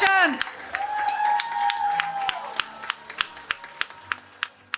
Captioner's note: cheering